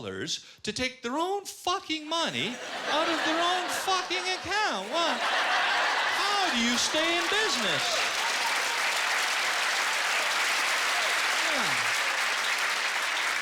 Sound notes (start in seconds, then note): 7.5 cheers and applause; 8.6 applause